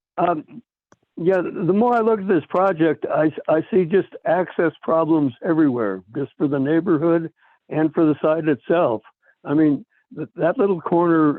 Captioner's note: by phone